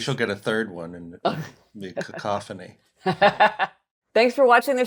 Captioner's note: laughs